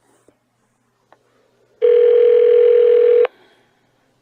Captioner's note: phone rings